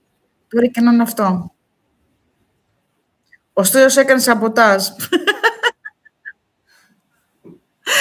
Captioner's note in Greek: γέλια